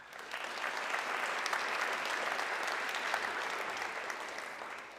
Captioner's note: audience clapping